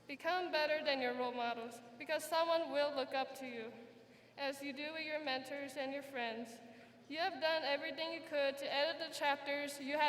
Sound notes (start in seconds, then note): none